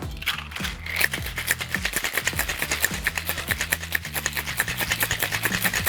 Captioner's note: cocktail shaker rattling